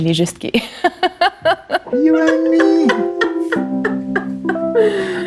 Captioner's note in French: rires